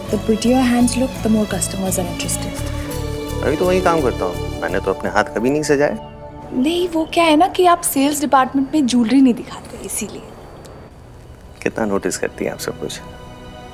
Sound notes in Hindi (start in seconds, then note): none